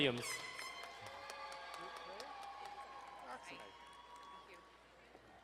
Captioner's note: horn blowing, crowd cheering